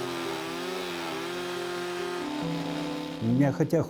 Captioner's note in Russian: звук пилы